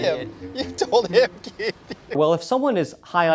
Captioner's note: laughing